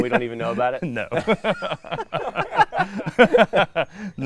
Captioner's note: laughing